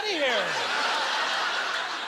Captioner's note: audience laughter